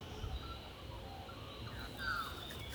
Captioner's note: birdsong